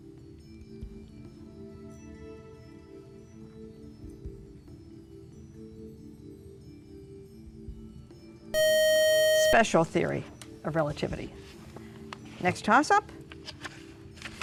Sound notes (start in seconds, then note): 8.5 buzzer